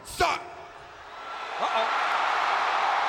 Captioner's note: audience cheering